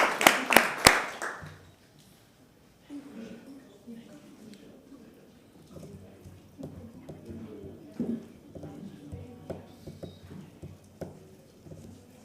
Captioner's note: applause